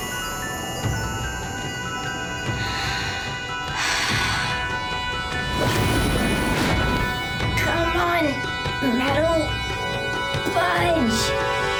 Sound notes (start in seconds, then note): 2.5 sighing